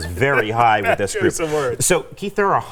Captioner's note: laughs